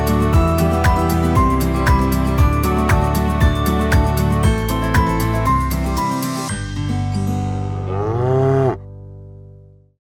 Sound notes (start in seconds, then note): 6.6 upbeat Music ending; 7.7 cow mooing